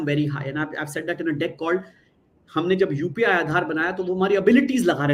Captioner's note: non-english speech